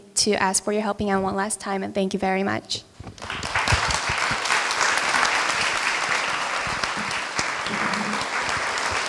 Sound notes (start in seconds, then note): 3.1 applause